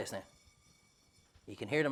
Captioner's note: seeds rattle